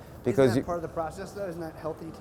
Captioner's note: male Voice